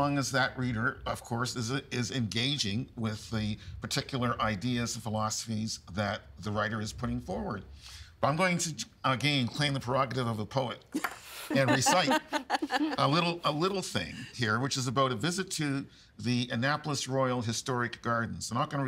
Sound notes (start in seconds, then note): 9.9 laughing